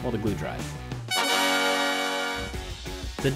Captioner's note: victory sounds